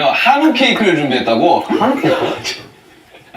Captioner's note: cracks up